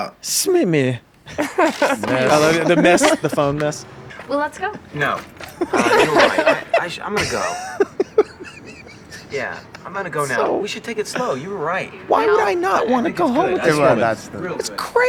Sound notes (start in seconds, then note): 5.3 laughter